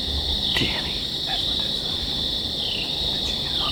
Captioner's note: whispering